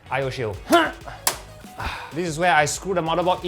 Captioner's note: orgasm sounds